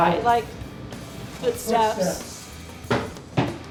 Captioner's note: sounds of footsteps